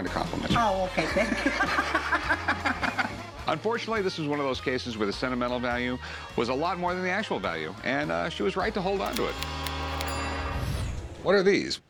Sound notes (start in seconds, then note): 1.1 laughs